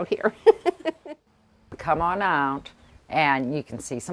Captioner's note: laughs